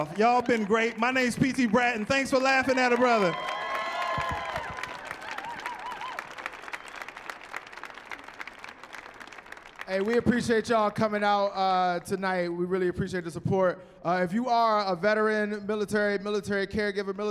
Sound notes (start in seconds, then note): 3.4 applause; 3.4 cheering